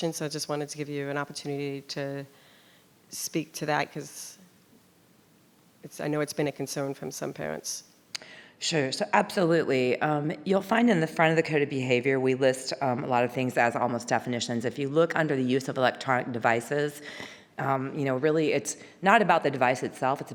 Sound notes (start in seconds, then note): none